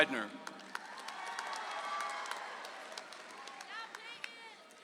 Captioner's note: audience applauds